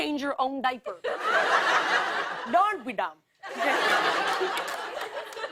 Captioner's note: Indian accent; normal voice